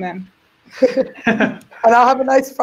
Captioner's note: laugh